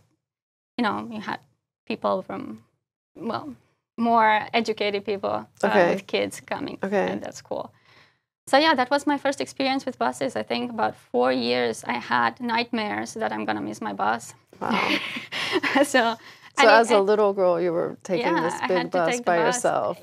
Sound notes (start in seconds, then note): 14.0 laugh